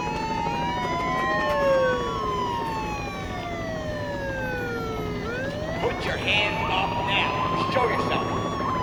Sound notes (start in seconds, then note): 0.0 helicopter circling; 8.5 sirens and helicopter continue